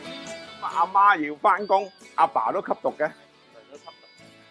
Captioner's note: speaking chinese